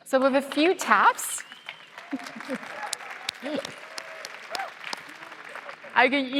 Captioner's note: applause